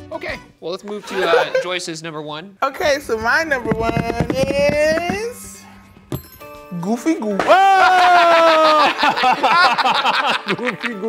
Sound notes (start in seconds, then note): 3.0 fingers tapping; 7.5 laughing